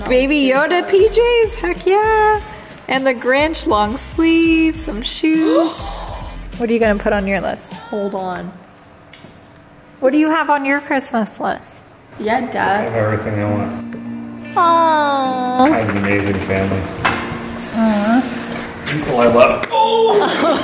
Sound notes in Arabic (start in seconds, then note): 5.3 تلهث; 19.8 ضحك